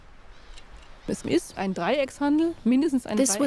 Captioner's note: speaking German